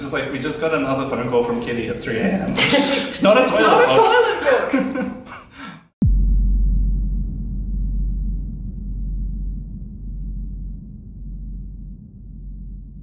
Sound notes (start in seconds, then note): 0.1 laughter; 5.3 laughter